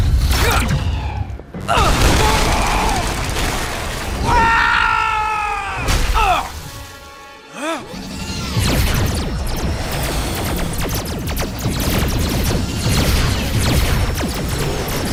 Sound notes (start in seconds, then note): 4.2 screaming; 11.4 lasers rapidly firing